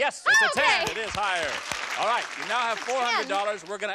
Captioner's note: applause